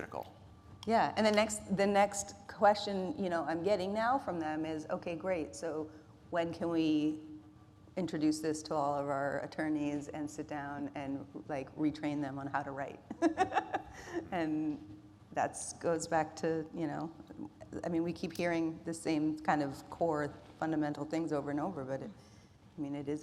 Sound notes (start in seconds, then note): 13.2 laughs